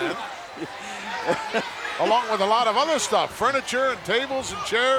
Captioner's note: laugh